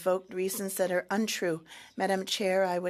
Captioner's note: speaking French